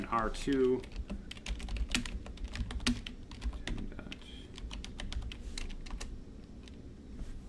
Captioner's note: keyboard typing